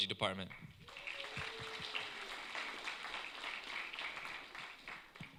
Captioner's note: applause